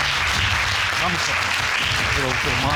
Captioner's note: audience clapping